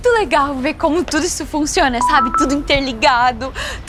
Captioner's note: notification